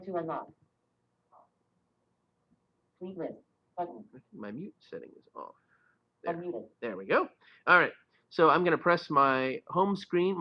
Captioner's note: Siri talking